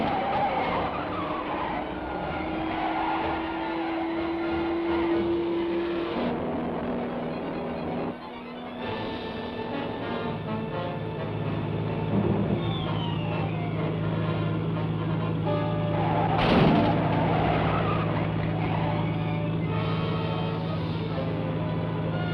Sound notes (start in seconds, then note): 0.2 tires squealing; 6.6 engine buzzing; 16.1 vehicles colliding; 19.5 dramatic music